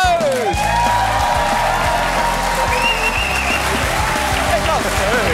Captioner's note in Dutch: applaus en gejuich